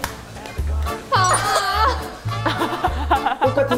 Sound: slap, slap

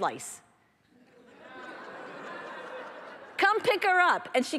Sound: laughter

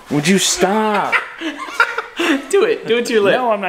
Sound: laughter

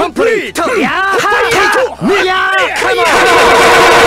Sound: both yelling

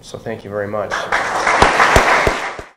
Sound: audience applauding

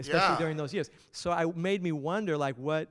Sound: voiceover

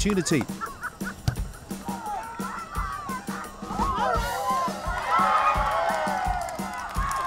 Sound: shouting and cheering

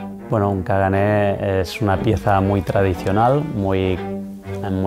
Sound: speaking foreign language

